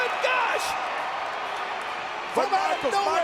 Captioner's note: crowd cheers